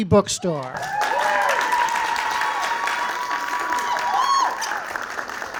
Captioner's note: audience cheering and applauding